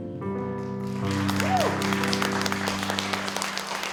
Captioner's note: applause